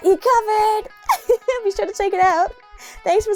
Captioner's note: laugh